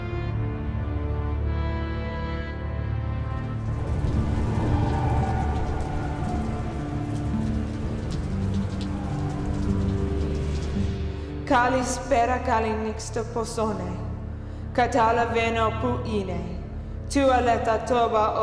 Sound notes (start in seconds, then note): 3.3 rain